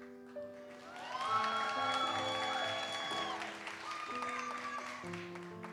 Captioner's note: audience cheers and applauds